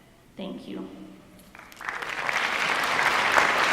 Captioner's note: applause